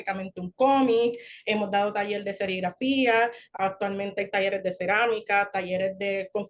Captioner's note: continues speaking Spanish